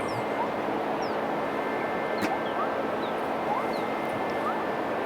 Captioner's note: acid chirps